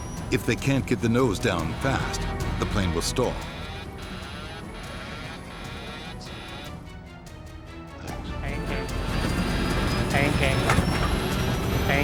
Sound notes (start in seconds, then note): 4.0 tense music; 4.0 warning sounds